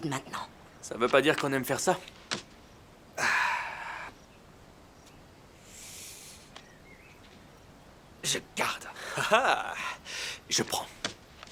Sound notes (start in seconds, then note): 3.1 sighs; 8.9 laughing